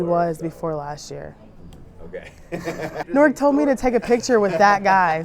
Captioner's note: laughing